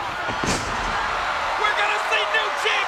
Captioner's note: audience cheers